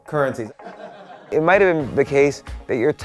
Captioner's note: crowd laughs